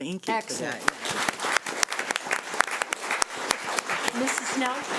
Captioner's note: crowd clapping